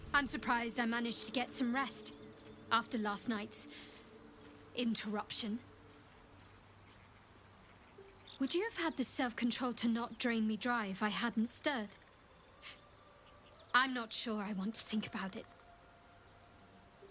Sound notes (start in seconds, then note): 12.6 gasp